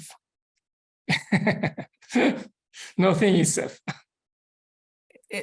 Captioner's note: laughs